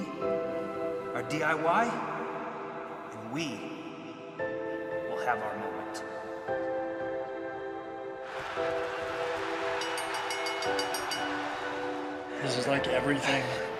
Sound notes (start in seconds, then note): 10.3 crowd cheering; 12.1 bell ringing